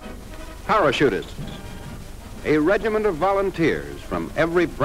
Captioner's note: voiceover